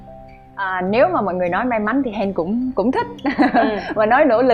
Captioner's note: laugh